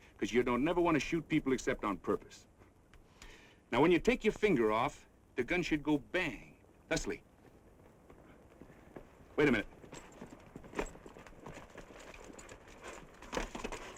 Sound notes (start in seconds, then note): 10.3 horse clopping